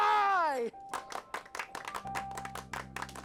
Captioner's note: clapping